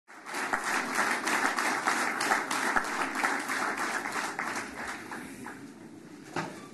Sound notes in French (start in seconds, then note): 0.1 Applaudissements